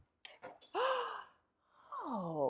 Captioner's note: gasps